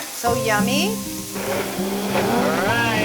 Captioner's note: gentle music; blender whirs